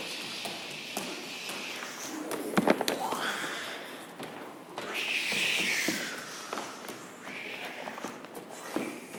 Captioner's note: play superhero sounds: "Shhhhh...Whhhhaaa"